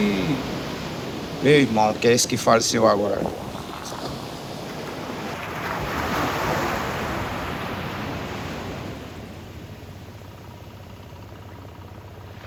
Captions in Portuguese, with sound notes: Eu e meu irmão, que é esse que faleceu agora. [Ondas do mar]